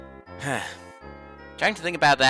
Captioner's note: sigh